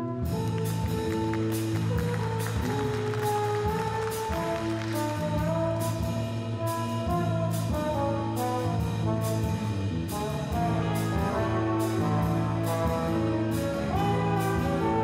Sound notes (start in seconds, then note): 0.4 scattered applause; 5.6 mellow jazz music